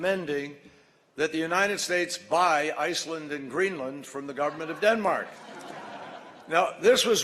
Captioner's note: laughter